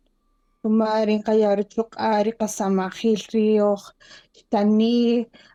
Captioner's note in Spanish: Hablando en kaqchikel